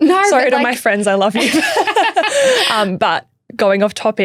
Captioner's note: laughing